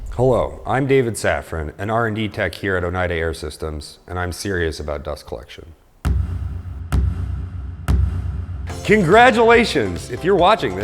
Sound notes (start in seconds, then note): 6.0 multiple cinematic hits; 8.7 upbeat music begins